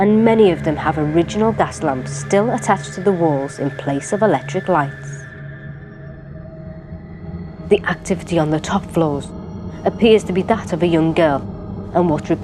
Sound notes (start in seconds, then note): none